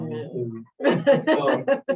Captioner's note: laughter